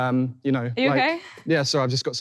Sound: laughing

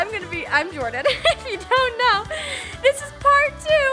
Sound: laughs

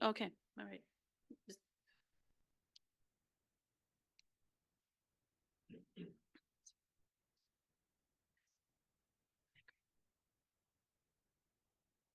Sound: audio cuts out

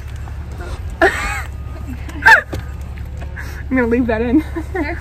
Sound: laughing

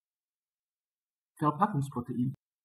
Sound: fast Pronunciation

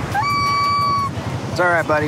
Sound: bird hoots

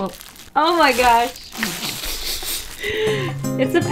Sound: sniggers

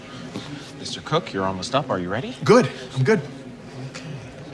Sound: none

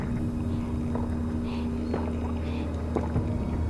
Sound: suspenseful music; gulping

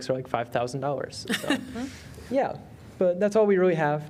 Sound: laughter

